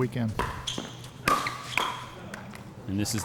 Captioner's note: shoes squeaking; ball being hit